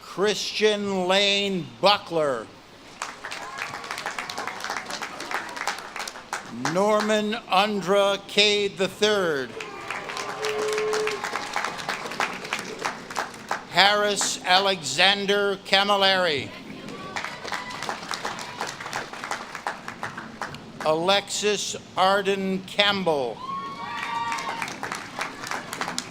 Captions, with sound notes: Christian Lane Butler. (audience claps and cheers) Norman Undra Cay III. (audience claps and cheers) Harris Alexander Camilari. (audience claps and cheers) Alexis Arden Campbell. (audience claps and cheers)